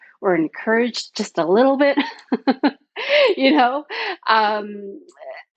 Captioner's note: chuckles